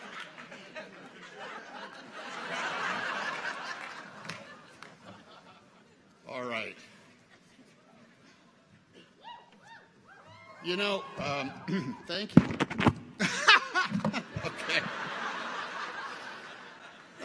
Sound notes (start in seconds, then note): 9.2 people cheer; 12.8 mic buffets; 13.2 laughs; 13.2 audience laughs